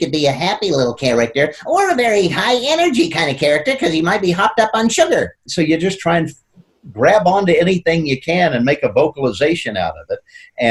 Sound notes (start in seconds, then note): 0.0 in high-pitched, nasal tone; 5.2 in normal voice